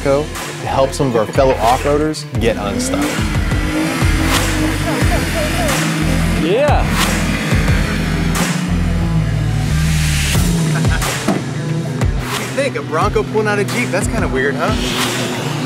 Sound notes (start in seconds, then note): 3.3 engines Revving; 10.5 laughing